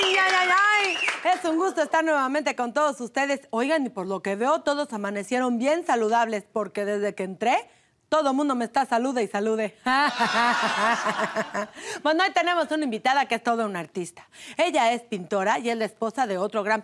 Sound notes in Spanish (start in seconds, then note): 9.8 Risas